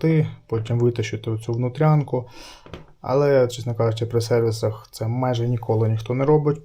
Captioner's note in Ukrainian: сопіння